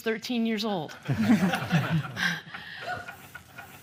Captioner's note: laughter